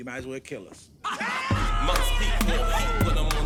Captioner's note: all laughing